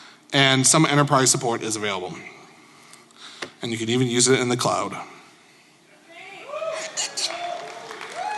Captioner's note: cheering